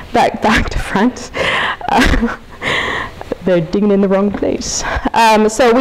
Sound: chuckles

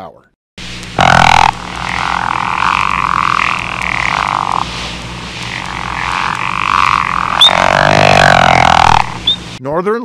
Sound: pickerel frog call

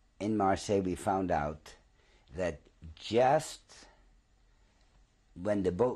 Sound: pauses for 3 seconds

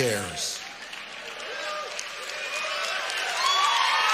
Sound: audience cheers

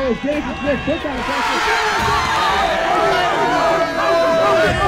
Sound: crowd cheers

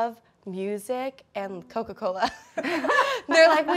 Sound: laughs

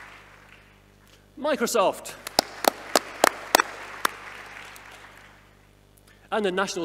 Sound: audience applauding; audience applauding

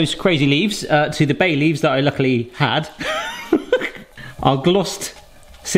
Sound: laughs

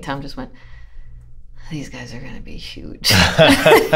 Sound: laughter

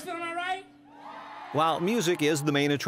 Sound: audience cheers; voiceover

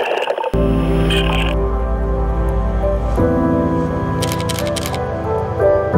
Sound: calm music; camera shuttering

